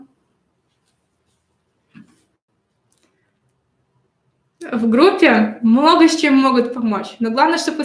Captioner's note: тишина